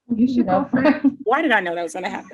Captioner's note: laughs